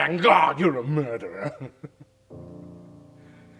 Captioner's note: chuckles